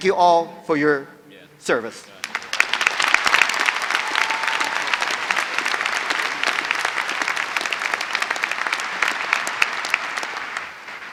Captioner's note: applause